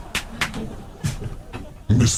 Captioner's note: laughter